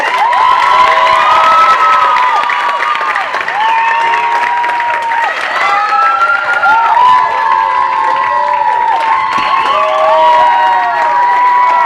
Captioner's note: applause